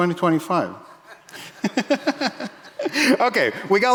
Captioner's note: audience laughing